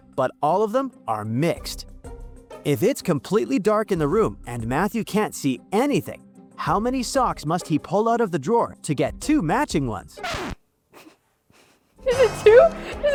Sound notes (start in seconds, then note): 10.2 record scratching; 11.6 laughing